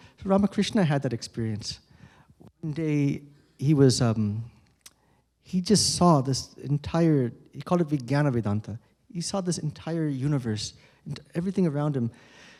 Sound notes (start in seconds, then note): none